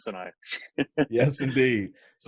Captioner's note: laughs